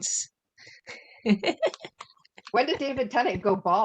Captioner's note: laughter